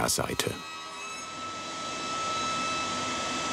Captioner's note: high sawing noise